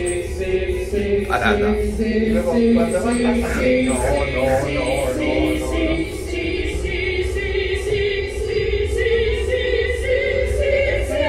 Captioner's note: beep sounds